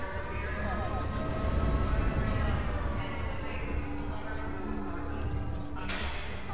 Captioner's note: constant whirring of alarm siren in the distance